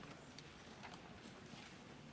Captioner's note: none